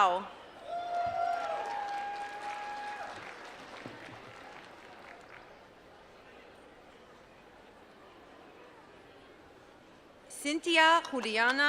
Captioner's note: applause